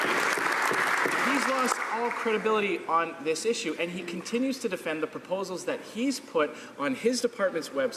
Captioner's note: some Applause